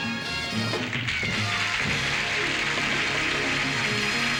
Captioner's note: applause